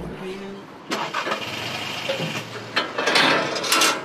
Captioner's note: the engine is started